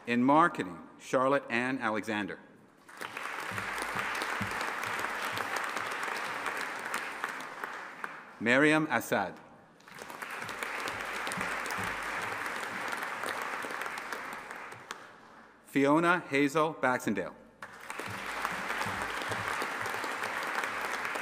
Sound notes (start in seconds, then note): 2.8 audience applauding; 9.8 audience applauding; 17.6 audience applauding